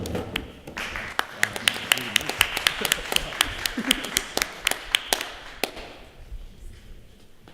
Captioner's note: applause